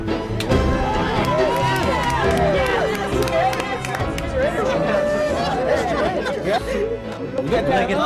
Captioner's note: cheering and applause